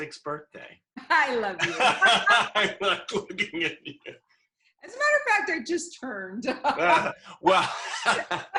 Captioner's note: laughter